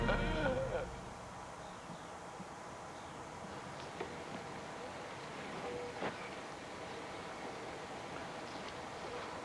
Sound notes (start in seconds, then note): 0.7 gasps